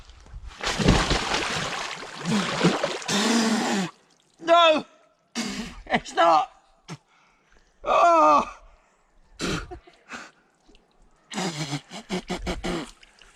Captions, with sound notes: [Splash] [Spits] No! [Laughs] It's not! [Spits] Argh! [Spits] [Blows and spits noisily]